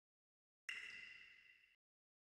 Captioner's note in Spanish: agua goteando